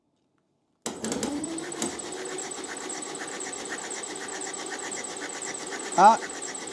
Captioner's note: wifi cutting